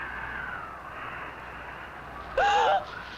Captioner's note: she gasps